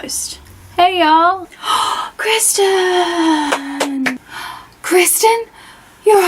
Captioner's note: applause